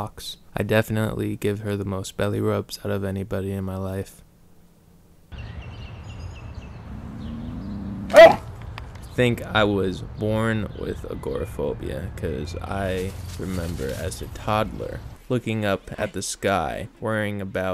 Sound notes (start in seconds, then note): 5.2 birds chirping; 6.8 growling